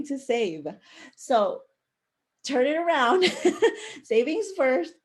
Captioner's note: chuckle